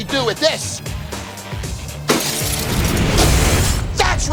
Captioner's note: glass shatters